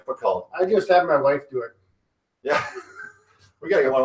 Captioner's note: laughing